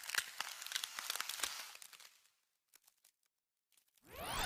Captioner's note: ice crackling